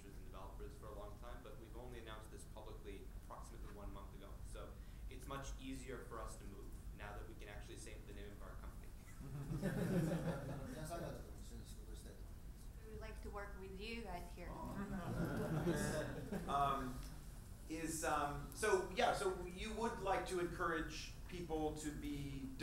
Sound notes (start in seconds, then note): 9.3 audience laughs; 11.7 speaking in foreign language